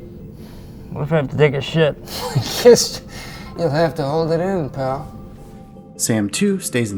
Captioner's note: laughs